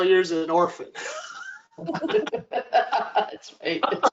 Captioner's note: laughter